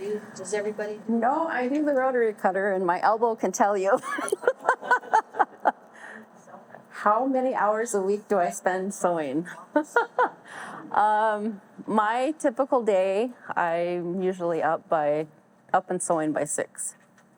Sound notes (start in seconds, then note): 4.0 all laugh; 9.8 laughs